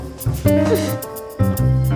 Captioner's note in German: Hmpf